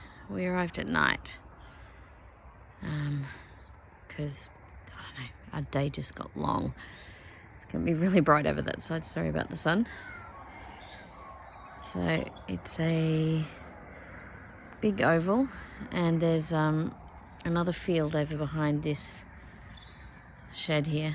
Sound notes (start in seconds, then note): 10.0 many morning birds